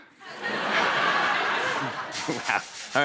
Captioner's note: laughter